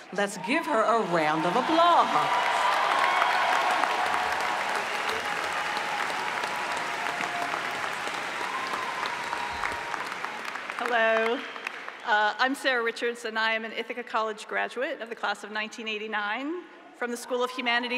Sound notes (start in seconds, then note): 3.7 applause